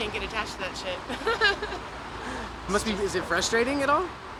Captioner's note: laughs